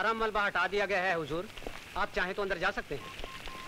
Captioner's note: Phone rings